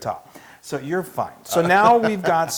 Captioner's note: laugh